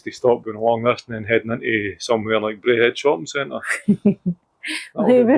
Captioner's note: laughter